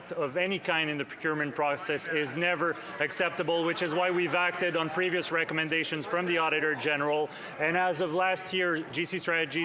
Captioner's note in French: voix de l'interprète